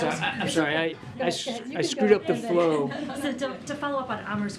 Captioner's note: laughter